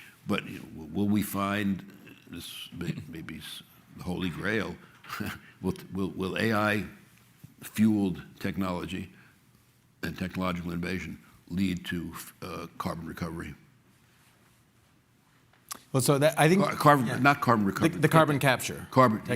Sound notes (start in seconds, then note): 4.9 chuckles